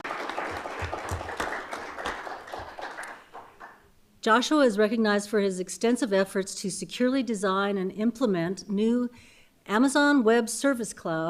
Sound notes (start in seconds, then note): 2.9 applause